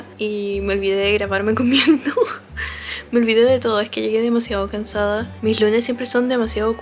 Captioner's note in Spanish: risas